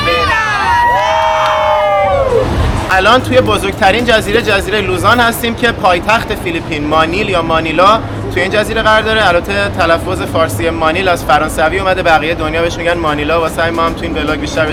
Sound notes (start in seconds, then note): 1.0 applause